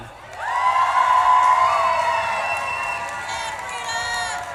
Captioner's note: audience claps and cheers